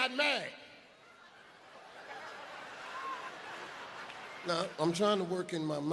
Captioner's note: audience laughs